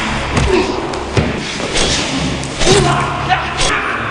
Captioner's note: grunting; thudding blows; metallic whooshing